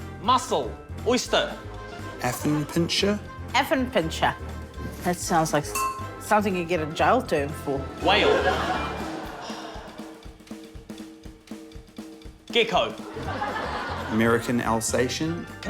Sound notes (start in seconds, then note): 5.6 dink!; 9.4 sighs